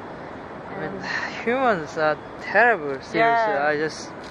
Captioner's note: sigh